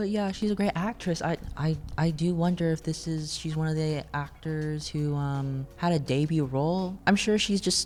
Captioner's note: sarcasm